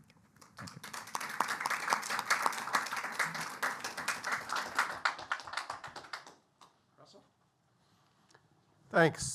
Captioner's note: applause